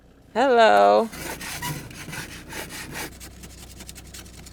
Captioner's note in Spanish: raspado de herramientas